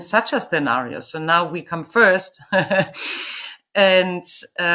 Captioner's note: laughs